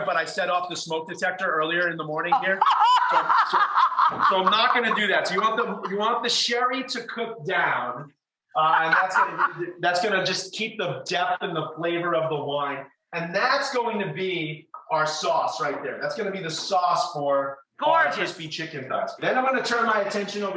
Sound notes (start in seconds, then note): 2.3 laughs hysterically